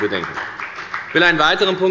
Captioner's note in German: Beifall bei der FDP